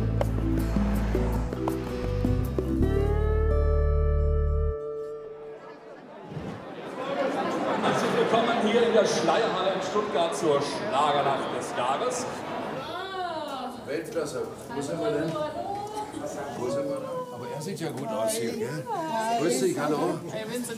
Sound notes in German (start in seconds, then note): 4.7 Musik verklingt; 6.0 Stimmengewirr